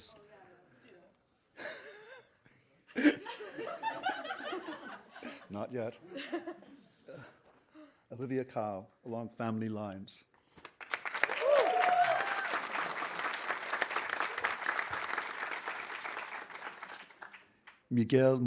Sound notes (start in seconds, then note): 2.9 laughing; 10.6 audience applauding; 11.1 audience cheering